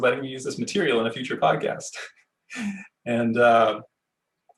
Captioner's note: laughing